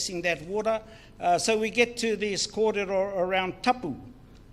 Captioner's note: speaks in foreign language